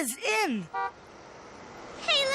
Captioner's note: horn honking